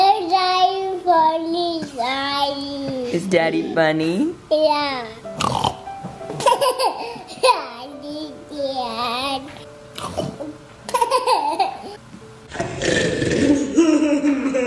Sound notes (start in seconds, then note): 5.4 snorting; 6.4 laughing; 9.9 snorting; 11.2 laughing; 12.5 slow-motion snorting; 13.3 slow-motion laughing